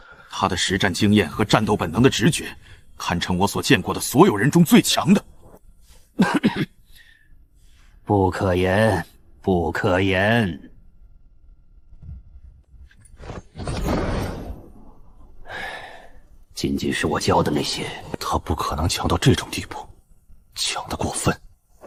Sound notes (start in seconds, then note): 6.1 cough